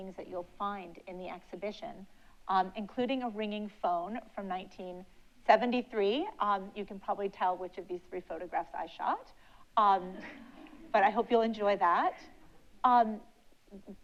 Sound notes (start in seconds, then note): 10.3 audience laughs